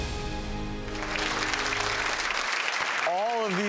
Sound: audience applause

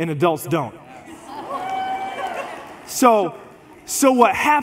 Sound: congregation laughs

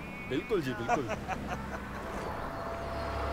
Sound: Ranga chukles

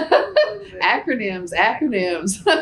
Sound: laughs

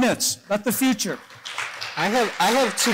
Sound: applause

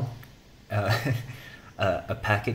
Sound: laughs

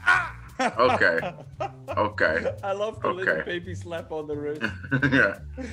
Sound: laugh; laugh

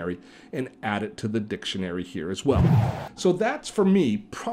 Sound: air gushing

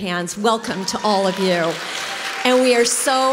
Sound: congregation cheers

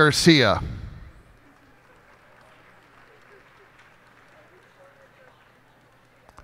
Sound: cheers and applause

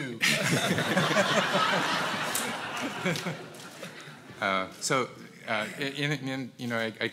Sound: laugh

